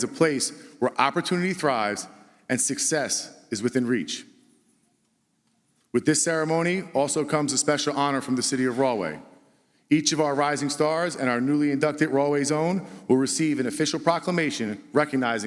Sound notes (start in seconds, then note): none